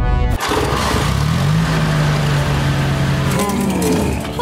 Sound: roaring; motor revving

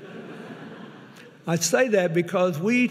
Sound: audience laughing

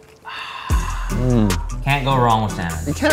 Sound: sighing

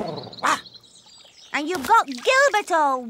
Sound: purrs angrily

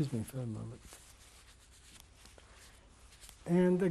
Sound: pauses for 3 seconds

